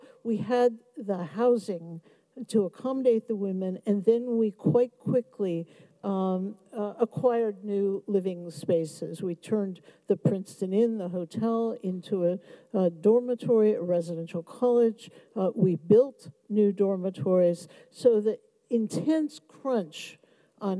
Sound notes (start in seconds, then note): none